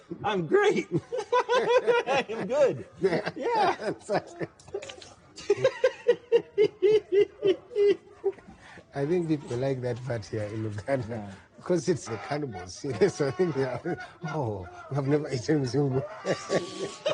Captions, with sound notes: I'm great! I'm good. - Yeah, exactly. (both laughing)